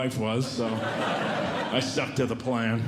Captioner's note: audience Laughing